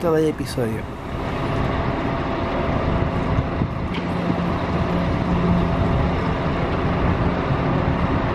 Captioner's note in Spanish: sonido ambiente del bus 'Eme Bus 199'